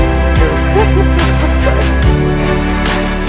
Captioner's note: laughing